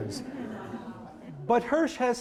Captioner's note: audience murmuring